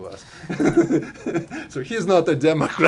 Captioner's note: laughter